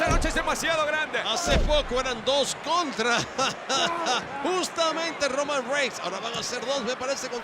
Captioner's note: laugh